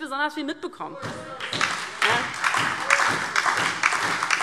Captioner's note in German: Beifall DIE LINKE und SPD